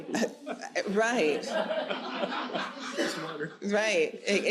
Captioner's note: audience laughs